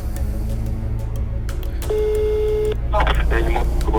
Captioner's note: dial tone